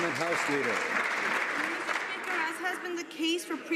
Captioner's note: some Applause